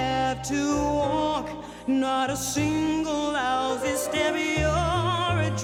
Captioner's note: inhales